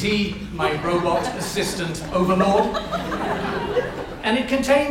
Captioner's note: audience laughs